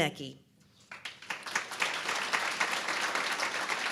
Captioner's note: applause